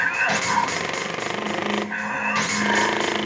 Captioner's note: controller vibrating